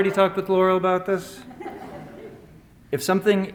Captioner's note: laughter